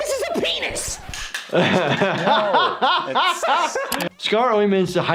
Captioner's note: laughter